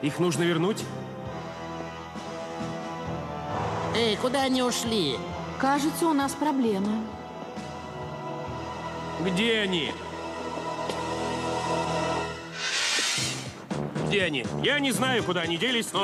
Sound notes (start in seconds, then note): none